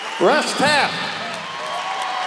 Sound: cheers and applause

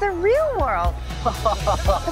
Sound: laughs

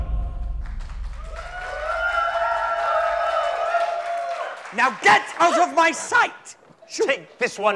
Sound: applause

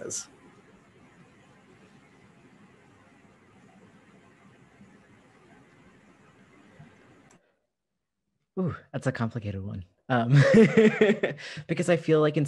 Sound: laughter

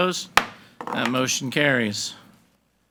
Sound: gavel bangs

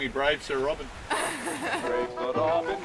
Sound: laughs

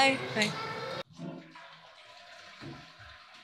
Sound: toilet flushing

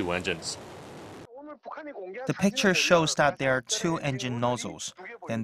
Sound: Korean

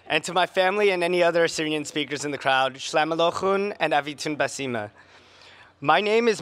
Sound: speaking Assyrian

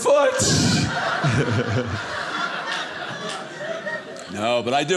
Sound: audience laughing

